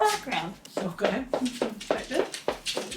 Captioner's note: shoes clacking